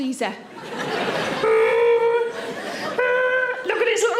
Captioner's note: audience laughing